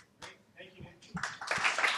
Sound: voiceover; applause

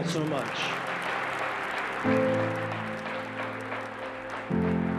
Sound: audience applauds

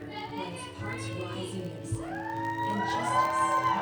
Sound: shouting

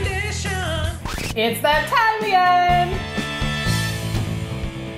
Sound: record scratch

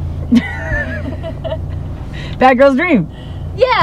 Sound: women chuckling

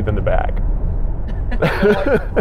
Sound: laughing

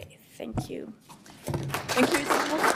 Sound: applause

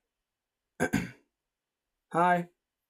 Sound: cough

